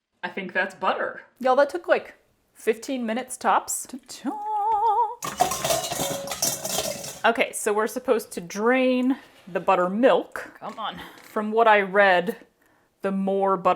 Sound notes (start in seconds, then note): 5.2 disastrous metallic clanking